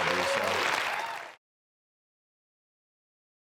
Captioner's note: clapping